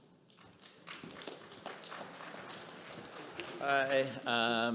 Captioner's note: audience clapping